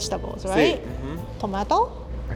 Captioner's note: speaking Spanish